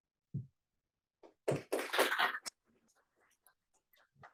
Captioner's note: applause